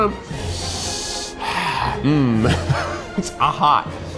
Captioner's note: sighs